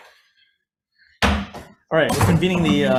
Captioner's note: gavel pounds